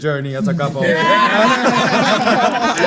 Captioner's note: everyone laughs